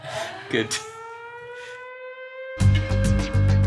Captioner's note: group laughing; siren blaring; upbeat music